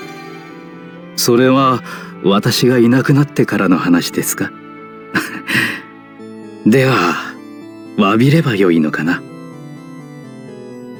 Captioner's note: laugh